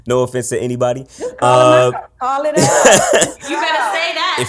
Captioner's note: laughs